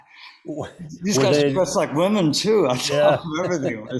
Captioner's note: laughs